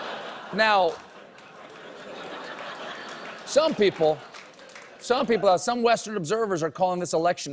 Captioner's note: laughter